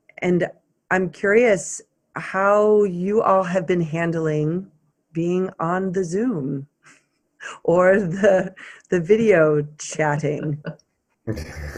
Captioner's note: laughs